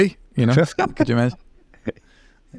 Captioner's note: laughter